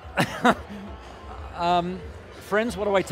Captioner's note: chuckling